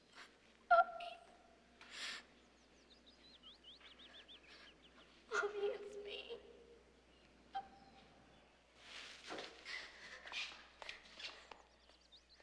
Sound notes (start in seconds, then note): 7.1 sobbing